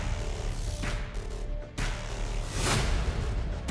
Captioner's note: none